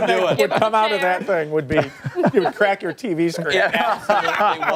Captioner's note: laughter